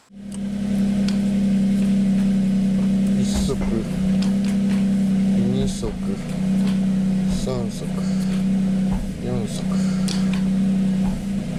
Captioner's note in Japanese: エンジン音